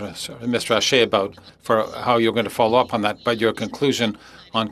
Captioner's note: speaking French